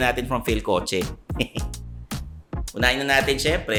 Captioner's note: chuckles